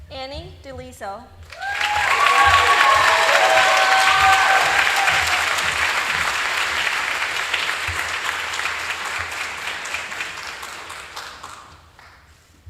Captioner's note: applause